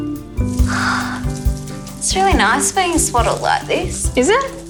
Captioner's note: sighs